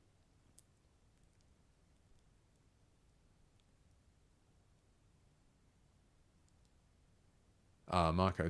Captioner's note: silence